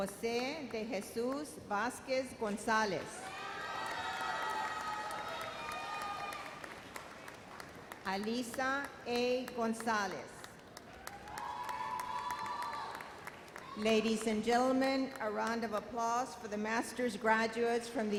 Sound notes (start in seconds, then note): 3.2 intense cheers; 10.6 audience applauds and cheers